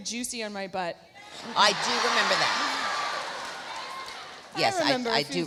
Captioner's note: crowd cheering